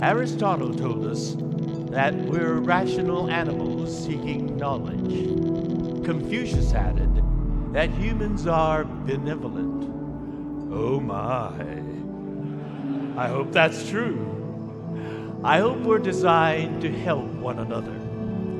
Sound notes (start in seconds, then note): 12.1 congregation laughing